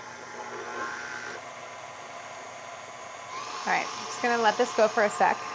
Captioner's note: mixer sounds